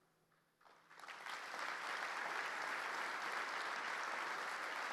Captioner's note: audience applauding